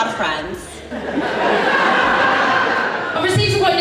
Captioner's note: audience Laughs